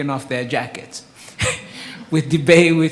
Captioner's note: laughs